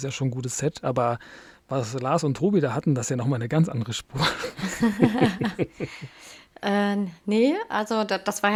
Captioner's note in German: gelächter